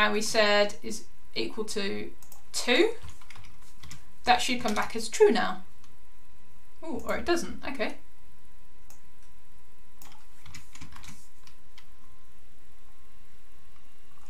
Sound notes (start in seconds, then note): 3.0 keyboard clicking; 10.0 keyboard clicking